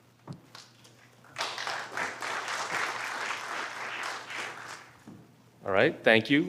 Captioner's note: applause